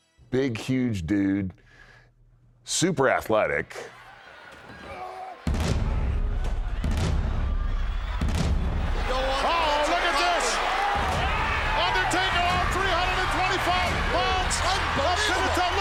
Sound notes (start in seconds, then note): 5.1 loud pounding